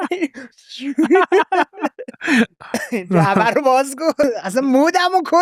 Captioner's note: laughing; laughs